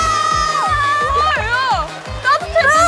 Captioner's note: splish splash